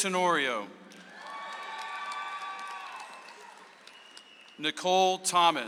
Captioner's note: audience applauds